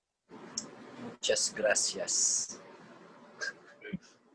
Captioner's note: in Spanish